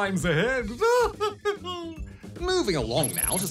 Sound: laughs

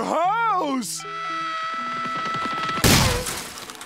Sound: screaming

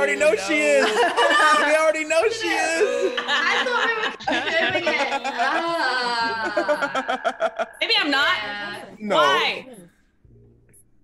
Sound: laugh

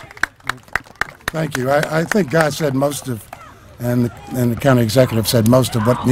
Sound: applause

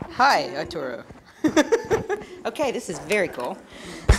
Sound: laugh

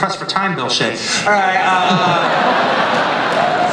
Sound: laughter

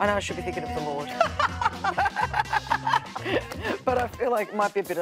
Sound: laughs

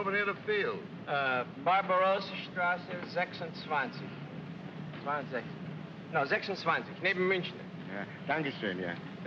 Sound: gives directions in German

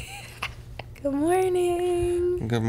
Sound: whispering

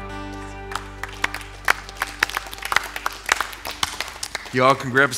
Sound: applause

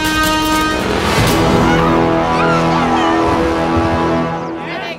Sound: dramatic sting; cheering

